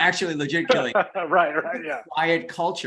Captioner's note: laughs